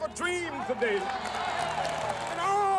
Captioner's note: applause